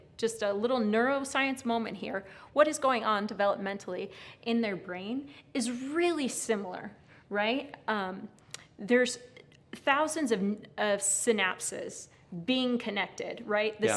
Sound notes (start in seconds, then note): none